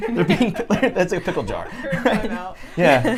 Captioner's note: everyone laughing